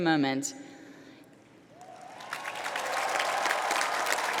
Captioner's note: applause